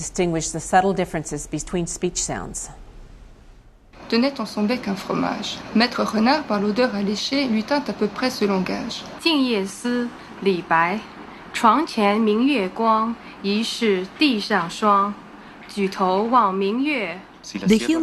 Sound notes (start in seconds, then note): 6.0 speaking various languages